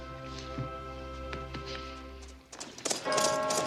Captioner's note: bell tolling